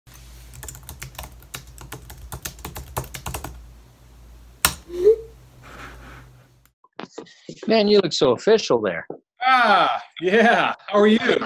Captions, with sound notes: (typewriter clicking) (Video chat sound) - Man you look so official there. - Ah, yeah, how are you?